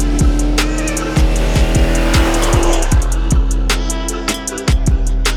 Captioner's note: engine revving loudly